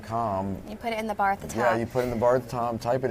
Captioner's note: laughing